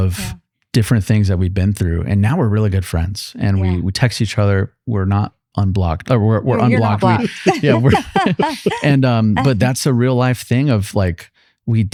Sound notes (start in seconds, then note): 8.4 laughing